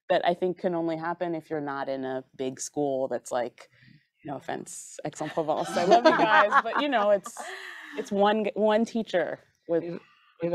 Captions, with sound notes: - That I think can only happen if you're not in a big school. That's like, no offense Aix-en-Provence, I love you guys. [group chuckling] But you know, it's one teacher with